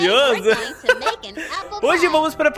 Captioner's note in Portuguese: risos